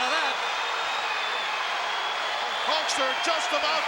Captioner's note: crowd yelling